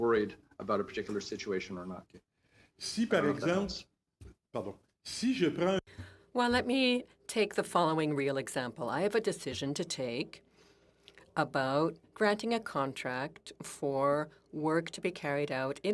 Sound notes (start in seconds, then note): 7.4 speaking French